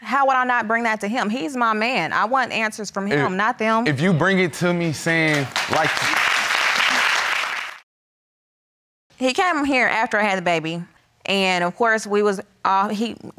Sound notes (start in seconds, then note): 5.1 audience applauding